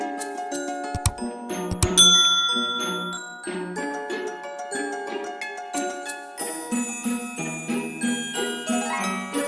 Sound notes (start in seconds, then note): 1.8 bell rings